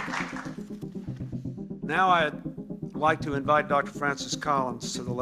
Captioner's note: soundbite of archived recording